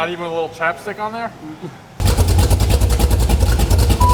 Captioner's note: engine rumbling